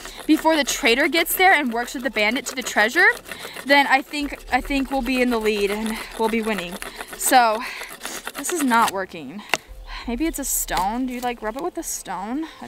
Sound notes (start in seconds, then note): 8.6 sticks rubbing